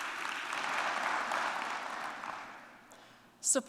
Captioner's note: applause